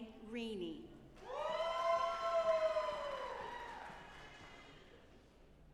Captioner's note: audience applauding